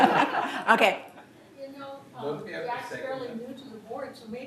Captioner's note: laughter